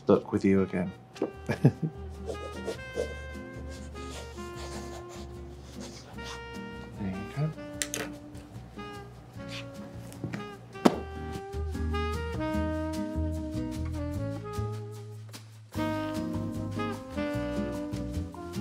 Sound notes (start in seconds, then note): 1.3 chuckles; 2.2 pen scratching; 2.4 bright music